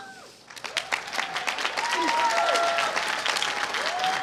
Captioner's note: applause